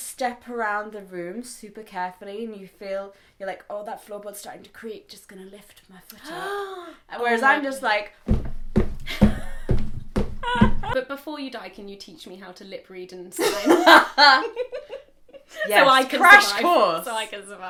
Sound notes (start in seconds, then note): 8.2 stomping sounds; 10.4 laughing; 13.4 laughing